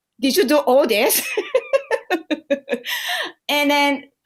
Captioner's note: laughter